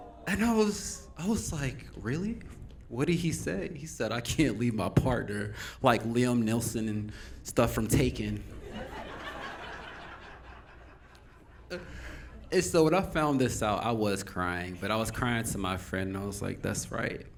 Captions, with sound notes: And I was like, really? What did he say? He said, I can't leave my partner, like Liam, Nelson, and stuff from "Taken." (Audience Laughing) So when I found this out, I was crying, but I was crying to my friend, and I was like, that's right.